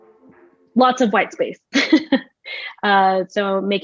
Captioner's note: laughs